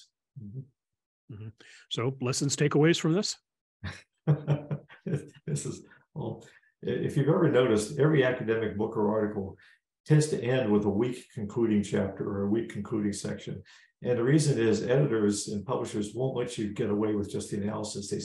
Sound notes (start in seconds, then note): 4.2 laugh